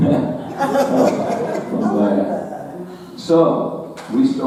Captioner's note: audience laughing